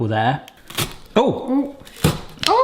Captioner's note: pineapple crunching